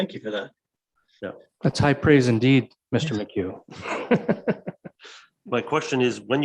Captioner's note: laughs